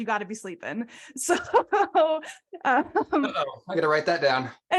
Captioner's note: laughs